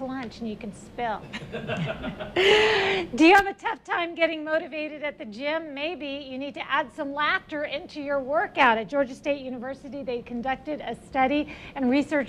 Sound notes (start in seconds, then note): 3.2 laughs